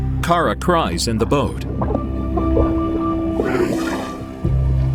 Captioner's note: underwater churning